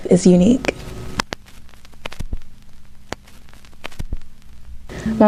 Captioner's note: static